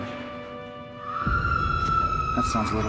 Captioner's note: Sarra screaming